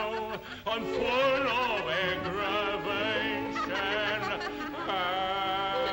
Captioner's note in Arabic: تضحك